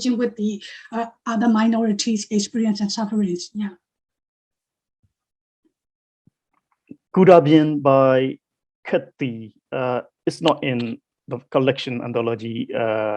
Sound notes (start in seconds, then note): 7.3 speaking foreign language